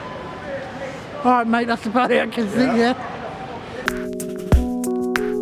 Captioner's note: laughing